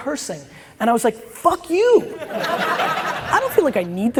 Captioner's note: audience laughs